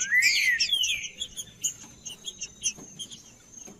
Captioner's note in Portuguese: trinca ferro cantando